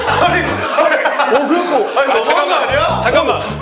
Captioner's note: ha ha ha ha ha